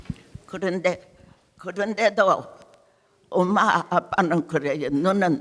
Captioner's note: speaking in foreign language